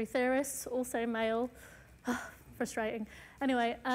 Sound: sighs

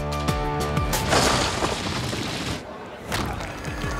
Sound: rubble crackling; stone cracking

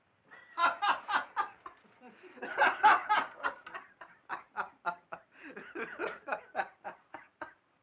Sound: laughing loudly

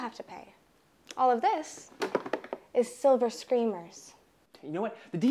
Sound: object clattering

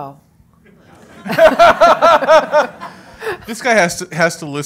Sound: audience laughs

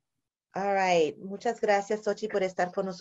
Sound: speaking spanish

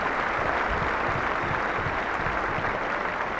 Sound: applauding

